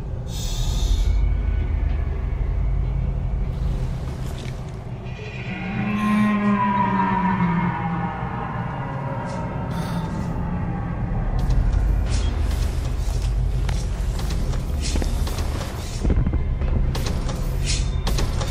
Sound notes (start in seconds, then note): 5.2 scraping sounds and loud moan; 9.7 footsteps followed by a scraping noise